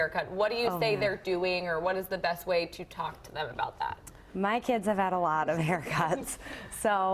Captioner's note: laughter